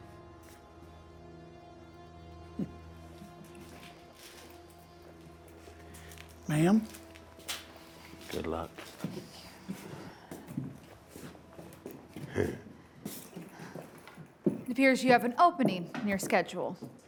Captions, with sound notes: Ma'am. Good luck. Thank you. [Deputy grunting] It appears you have an opening in your schedule.